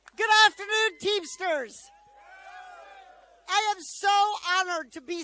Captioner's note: applause